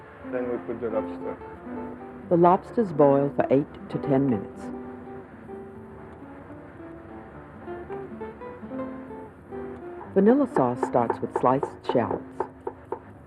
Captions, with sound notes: Then we put the lobster. - [Voiceover] The lobster's boiled for eight to 10 minutes. Vanilla sauce starts with sliced shallots.